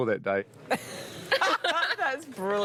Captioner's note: laughing